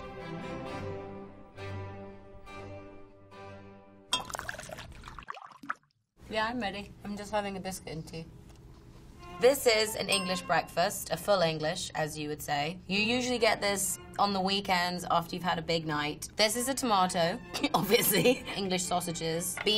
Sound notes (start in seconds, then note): 0.0 stately orchestral music; 4.2 tea gurgling